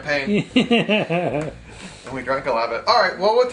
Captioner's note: laughs